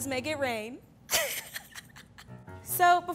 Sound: laughs

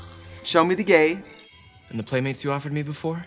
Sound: jingling; twinkling

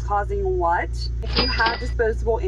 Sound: cash register bell ringing

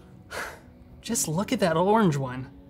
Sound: loud sigh

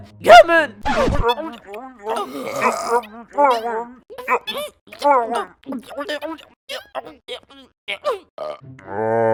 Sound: eating sound

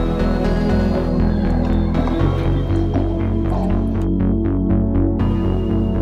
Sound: calm electronic music; city sounds; footsteps; calm electronic music

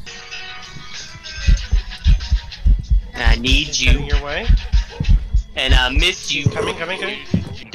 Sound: heartbeats; ghost groans

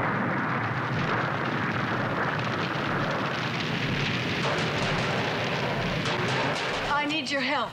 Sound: explosion

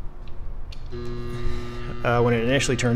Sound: transformer buzzes

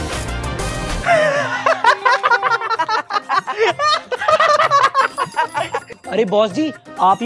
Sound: laughing

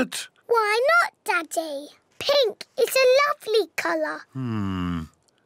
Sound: none

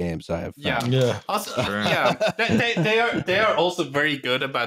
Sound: agreement and laughter

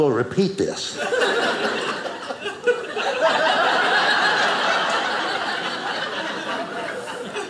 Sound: audience laughing

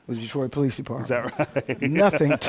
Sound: laughs; laughter

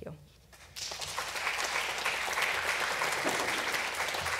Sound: applause

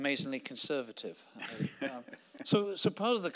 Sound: laughing

